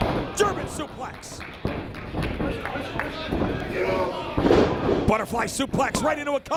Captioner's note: applause